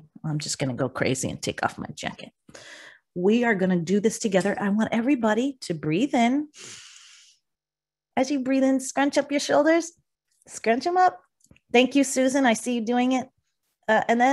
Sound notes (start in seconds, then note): 6.6 inhales